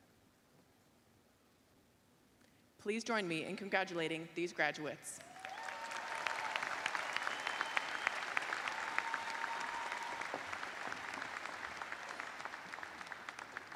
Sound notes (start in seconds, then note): 2.2 applause